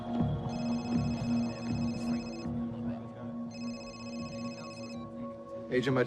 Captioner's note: cell phone ringing